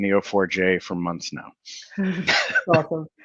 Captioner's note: laughing